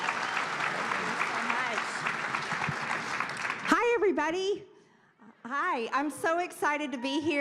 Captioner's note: applause